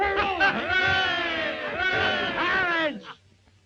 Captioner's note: all cheering